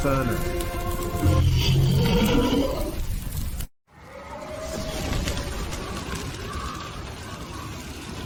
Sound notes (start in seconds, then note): 3.9 wind Howling